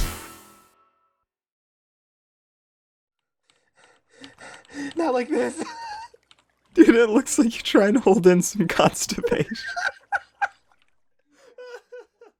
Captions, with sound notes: (silence) (heavy breathing) Not like this! dude it look's like you trying to hold in costipation